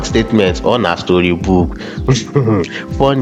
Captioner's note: laugh